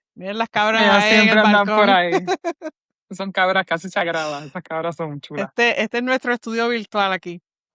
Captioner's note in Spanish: risas